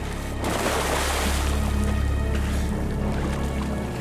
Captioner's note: water splashes